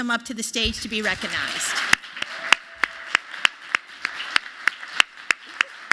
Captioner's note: applause